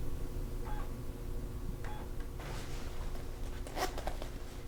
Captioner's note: computer disk drive whirls